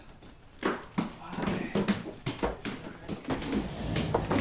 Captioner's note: footsteps on stairs